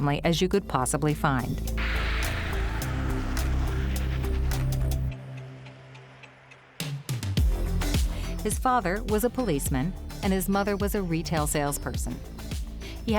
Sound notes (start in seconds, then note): 2.9 tires skidding